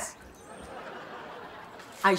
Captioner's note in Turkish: Gülme efekti